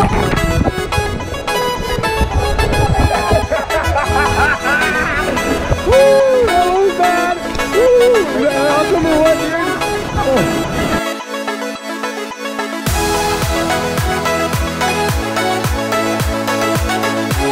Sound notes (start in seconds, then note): 2.9 laughing